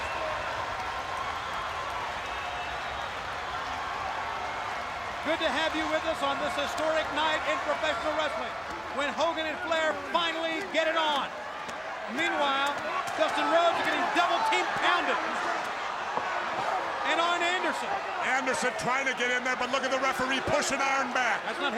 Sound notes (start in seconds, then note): 1.2 crowd cheering and whistling